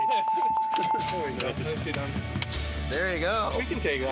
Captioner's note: bells